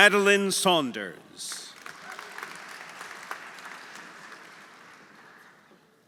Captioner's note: audience applauding; audience cheering